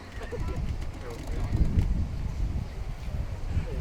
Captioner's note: wind blowing